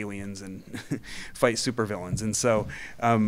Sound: chuckling

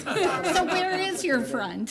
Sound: laughing

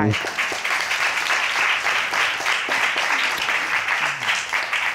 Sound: audience applauding

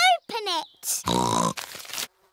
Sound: snorts

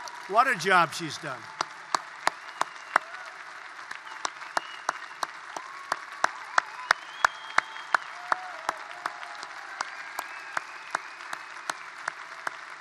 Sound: applause

